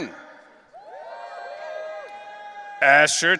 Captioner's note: audience cheering